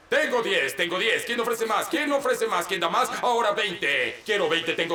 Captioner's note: auctioneer chants